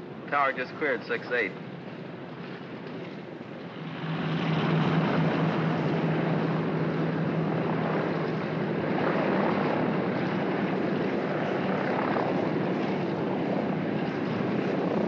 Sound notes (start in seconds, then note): 4.3 aircraft rumbles